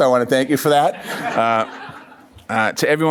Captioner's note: laughs